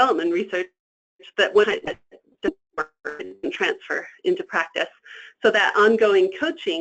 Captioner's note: static